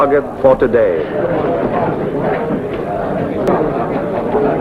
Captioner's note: men chattering